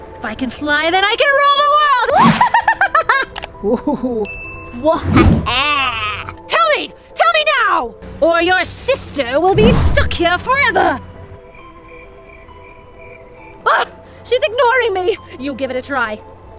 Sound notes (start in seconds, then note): 3.6 laughs; 5.1 Jester cackles; 11.4 crickets chirp